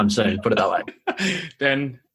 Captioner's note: laughs